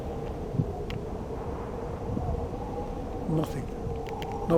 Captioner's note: wind howling